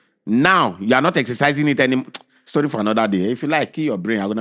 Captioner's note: clicks tongue